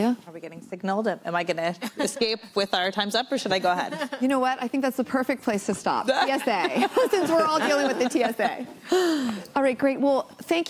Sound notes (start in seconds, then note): 2.0 laughs; 3.8 laughs; 6.1 laughter